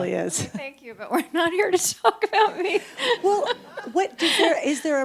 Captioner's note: laughs